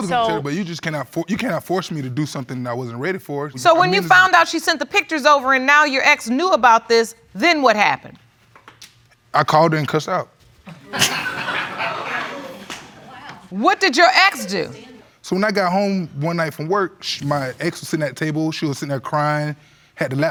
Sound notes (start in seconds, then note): 10.7 audience laughing